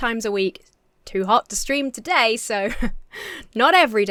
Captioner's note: chuckles